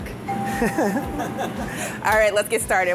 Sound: laughing

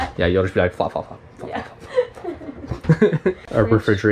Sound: both laugh

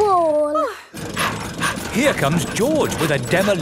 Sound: daddy pig panting

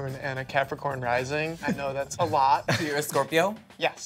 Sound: group chuckles

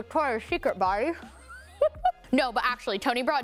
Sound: chuckles

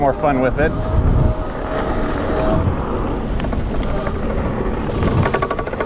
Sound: bike motor revving

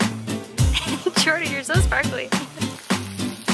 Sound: laughter

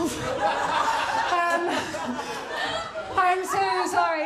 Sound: laughter

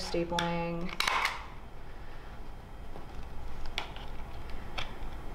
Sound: stapler clicks

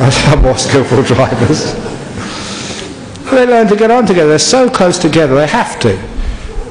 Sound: laughter

